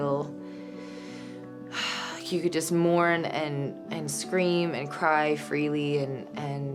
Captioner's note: sighing